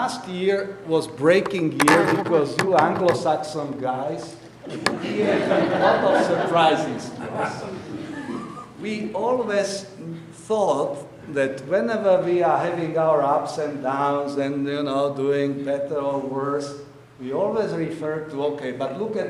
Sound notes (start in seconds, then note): 4.6 audience laughing